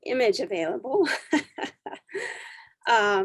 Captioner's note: chuckling